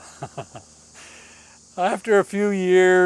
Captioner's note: laughs